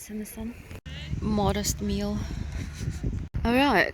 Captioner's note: laughs